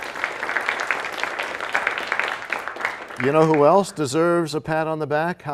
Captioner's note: applause